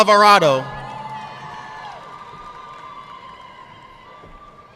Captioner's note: audience clapping